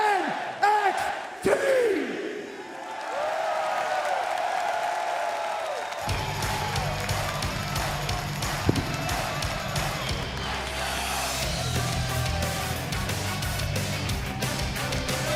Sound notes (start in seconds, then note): 2.5 crowd cheering